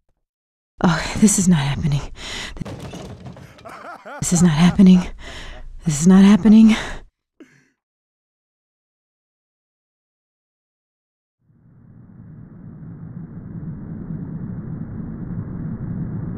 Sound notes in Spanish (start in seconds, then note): 3.3 Coach se ríe